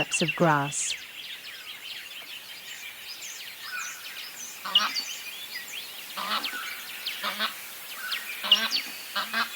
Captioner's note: cape barren sound